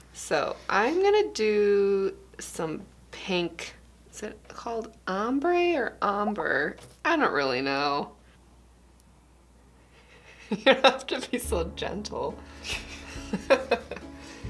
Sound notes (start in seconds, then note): 12.6 laughing